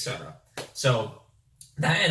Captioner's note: hands clap